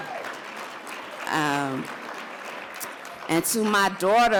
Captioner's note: audience applauds